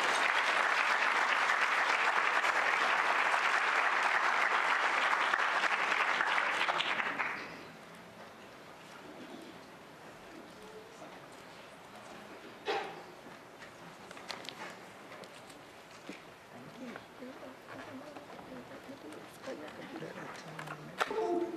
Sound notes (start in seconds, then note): 4.7 applause